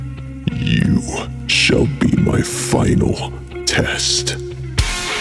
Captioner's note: sinister Voice